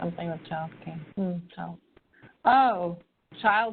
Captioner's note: disinterested muttering